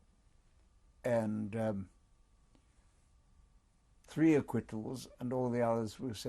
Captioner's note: pauses for 3 seconds